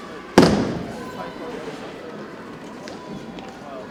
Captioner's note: boots thumping